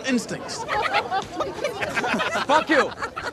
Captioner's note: clucking